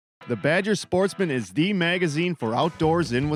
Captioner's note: voiceover